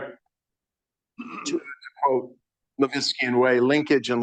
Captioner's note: speaks faintly